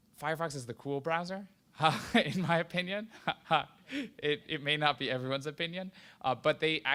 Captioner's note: laughs